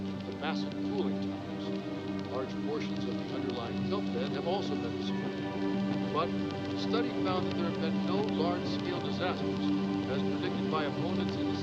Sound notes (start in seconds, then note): 4.1 fire crackles, ominous music continues; 10.5 ominous music intensifies